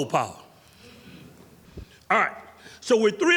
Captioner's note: audience giggles